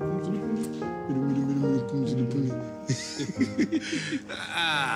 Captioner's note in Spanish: Risas